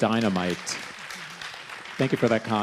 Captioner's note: crowd applauding